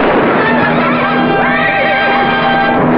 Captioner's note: neighing